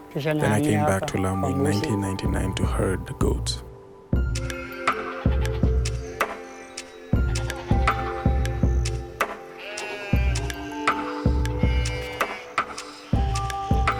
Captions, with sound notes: Then I came back to Lamu in 1999 to herd the goats. (goats bleating) (peaceful music)